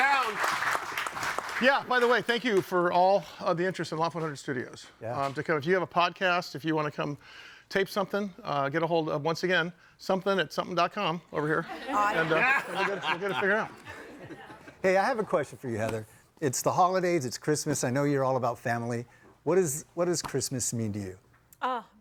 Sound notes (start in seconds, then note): 0.0 audience applauding; 11.4 audience laughing; 12.1 audience applauding